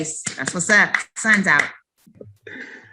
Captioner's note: claps